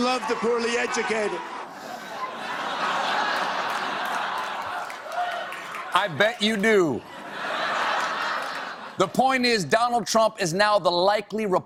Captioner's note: laughter